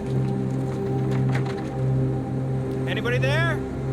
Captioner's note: knocking